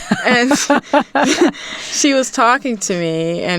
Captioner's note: hearty laughter